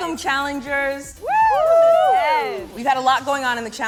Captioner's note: cheering